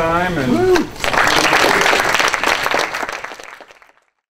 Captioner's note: applause